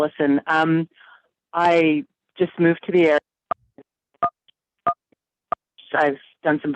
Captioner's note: buttons beeping, inaudible